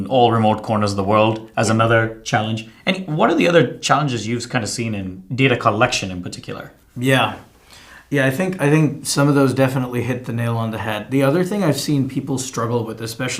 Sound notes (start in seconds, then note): none